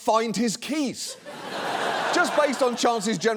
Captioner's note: audience laughs